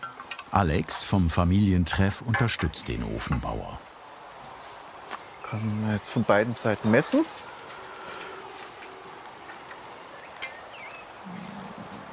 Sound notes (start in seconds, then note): 7.9 birds chirping